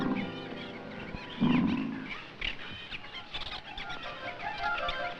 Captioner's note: leopard roars